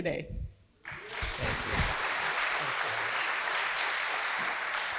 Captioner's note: audience applauding